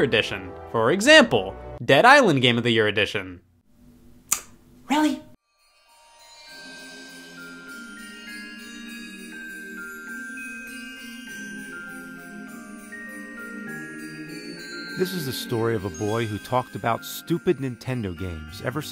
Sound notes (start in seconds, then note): 4.3 clicks tongue; 5.9 festive Christmas music